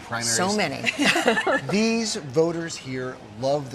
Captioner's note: laughter